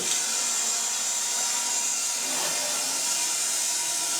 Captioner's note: saw buzzing